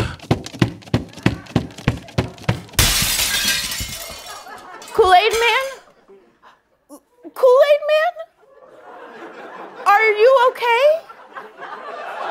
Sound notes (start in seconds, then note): 0.0 thumping; 2.7 glass shattering